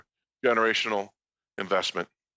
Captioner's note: speaking French